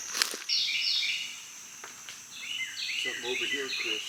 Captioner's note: birds calling